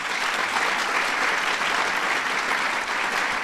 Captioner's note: applause